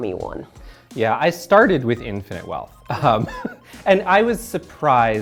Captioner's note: chuckles